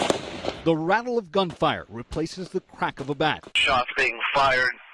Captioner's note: gunfire